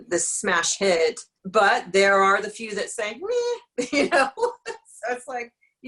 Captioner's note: laughs